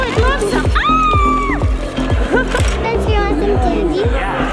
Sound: screams

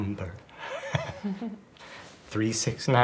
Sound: chuckle

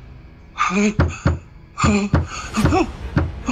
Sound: soft knocking

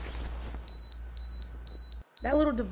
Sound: device beeps

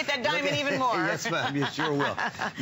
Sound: laughter

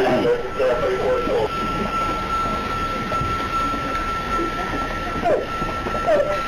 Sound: beeping, gasping

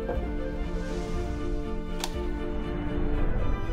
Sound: switch clicks

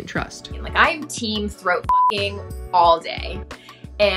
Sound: beep

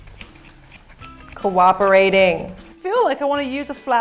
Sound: scissors cutting

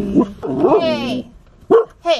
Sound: bark

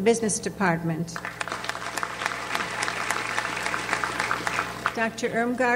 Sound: audience applauds

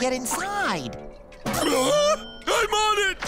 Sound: shouting

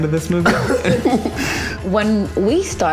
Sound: laughing

